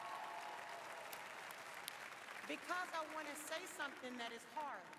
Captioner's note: applause